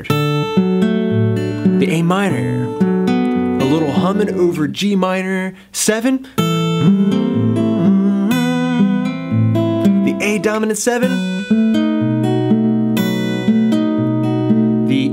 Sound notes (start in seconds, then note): 0.0 strums chord progression; 6.3 strums chord progression; 6.4 hums tune; 12.0 strums chord progression